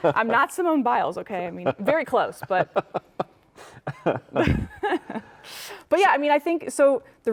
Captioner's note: laughing